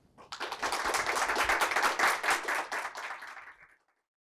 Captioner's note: audience applauds